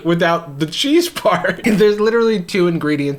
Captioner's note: laughs